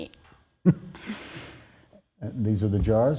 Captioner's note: chuckles